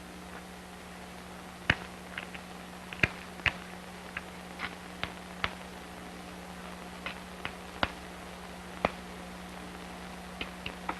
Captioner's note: sound of hammering rock